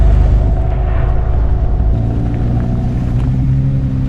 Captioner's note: suspenseful music; cars driving